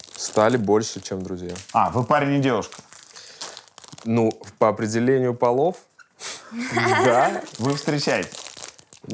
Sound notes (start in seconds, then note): 6.4 laughs